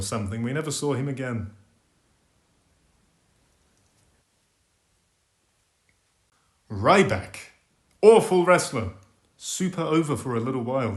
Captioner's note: awkward pause